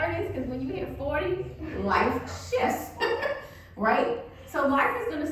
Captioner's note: laughs